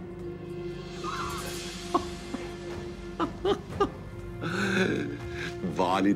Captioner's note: laughter